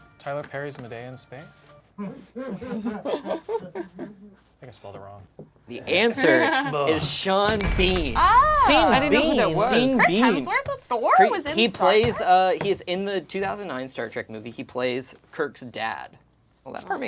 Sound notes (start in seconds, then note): 2.1 group laughs; 8.5 overlapping chattering